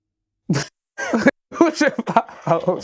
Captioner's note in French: Rire